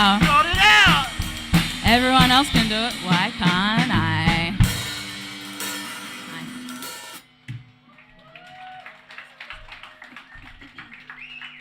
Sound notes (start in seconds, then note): 7.9 applause